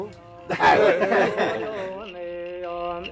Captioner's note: laughing; singing in foreign language